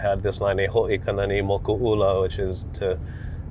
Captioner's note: speaks Hawaiian